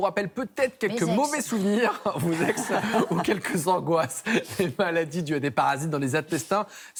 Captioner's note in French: rires